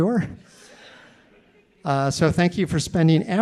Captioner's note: audience laughing